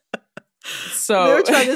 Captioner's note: laughter